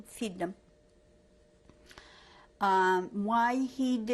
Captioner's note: pauses for 3 seconds